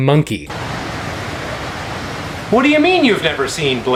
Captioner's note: wind blowing